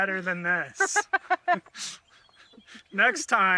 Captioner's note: laughs